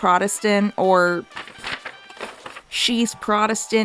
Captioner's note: Turns pages Jewishly